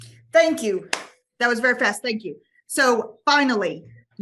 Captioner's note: claps hands